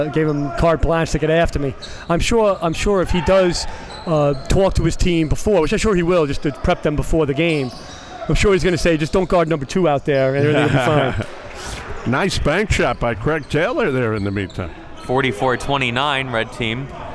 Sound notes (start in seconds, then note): 10.4 laughing